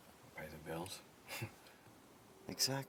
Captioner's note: Max chuckling